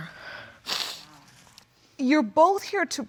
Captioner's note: sniffling